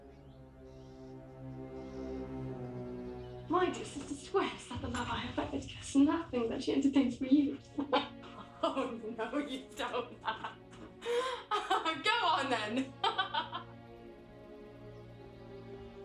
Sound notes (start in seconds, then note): 0.2 soft dramatic music; 10.6 laughs; 12.7 laughs; 13.4 soft music